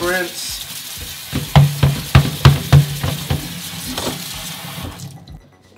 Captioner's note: water spraying; colander banging